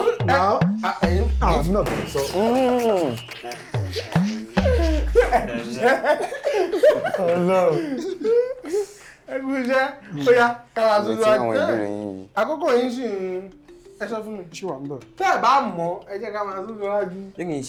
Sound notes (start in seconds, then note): 1.4 buzzer sounds; 2.4 everyone laughs